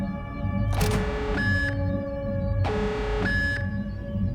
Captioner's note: alarm beeping